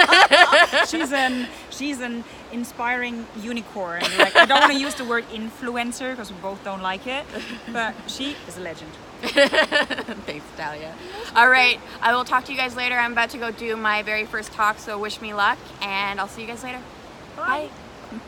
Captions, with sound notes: (laughter) She's a inspiring unicorn! I don't want to use to word influencer because we both don't like it but she is a legend!(laughter) Thanks Natalia! Alright, I will talk to you guys later, I'm about to go do my very first talk, so wish me luck, and I will see you guys later! Bye!